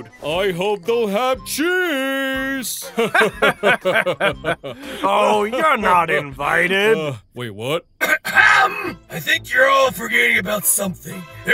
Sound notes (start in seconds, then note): 2.8 laugh; 2.8 laughter